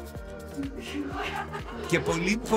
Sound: laughter

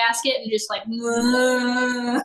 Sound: whirring

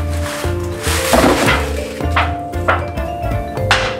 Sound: muffled crash

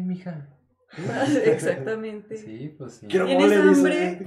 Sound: laughing & agreeing

